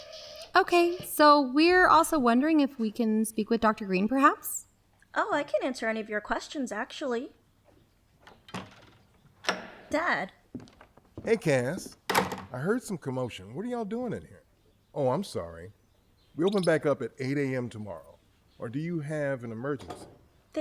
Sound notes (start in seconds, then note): 8.2 door opens; 10.4 footsteps; 11.8 door closes